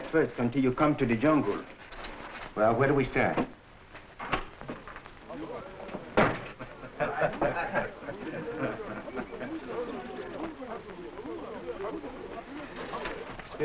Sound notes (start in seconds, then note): 5.3 group laughing; 5.8 door creaking